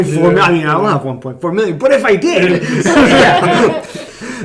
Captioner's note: laughing